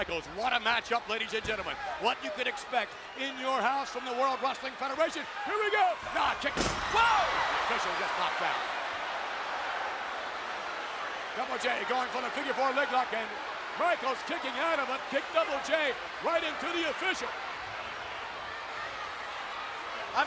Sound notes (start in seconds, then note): 10.1 audience chattering; 18.1 audience chattering